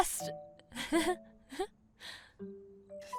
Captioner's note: amanda giggles nervously